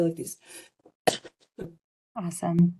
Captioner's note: coughing